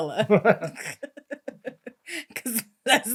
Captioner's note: both laughing